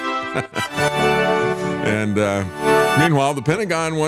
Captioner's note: laughter